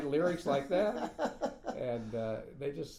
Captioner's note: laughing